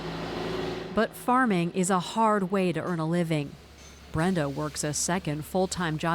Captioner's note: voice-over